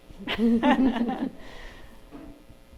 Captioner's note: laughter